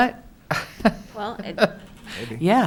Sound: laughing

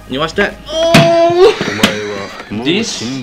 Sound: moaning

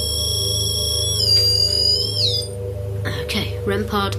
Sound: REM pod beeps

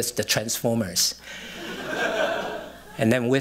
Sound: laughter

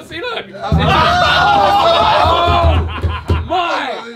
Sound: all screaming and laughing

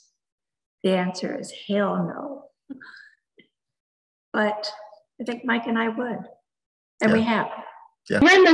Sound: laughs

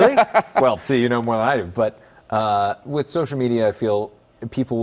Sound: laughter

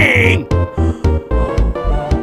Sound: gasp

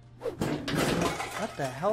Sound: shattering

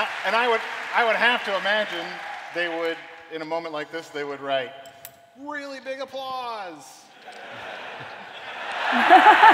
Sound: applause

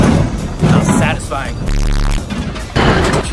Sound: static

